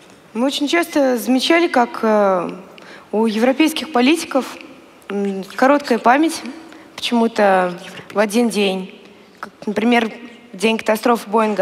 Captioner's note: foreign Language